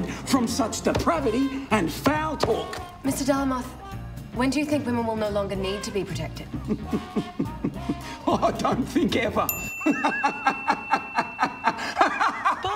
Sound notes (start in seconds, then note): 6.5 chuckles; 11.4 loud laughter